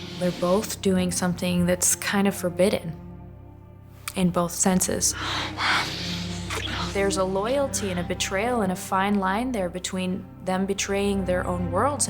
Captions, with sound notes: - They're both doing something that's kind of forbidden in both senses. (Cruz and Aaliyah panting) (lips smacking) There's a loyalty and a betrayal, and a fine line there between them betraying their own worlds